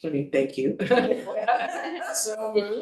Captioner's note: board members chattering and laughing